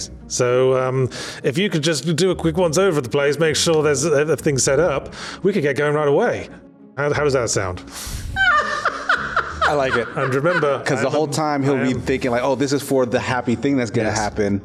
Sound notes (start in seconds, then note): 8.3 excercise's his demons w. a laugh